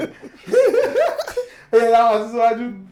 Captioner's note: laughs